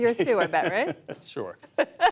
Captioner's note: laughter